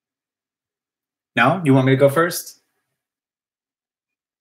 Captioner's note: none